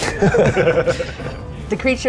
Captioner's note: chuckle